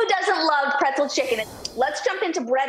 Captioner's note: whooshing